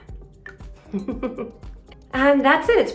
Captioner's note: giggles